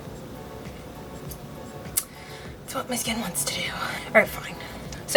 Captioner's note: deep sigh